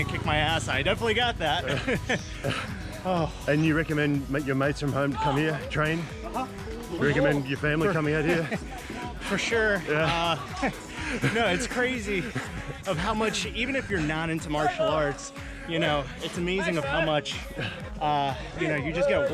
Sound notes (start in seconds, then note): 1.6 laughter